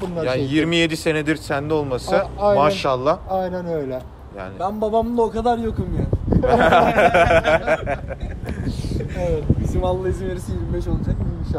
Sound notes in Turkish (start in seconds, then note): 6.3 Gülüşürler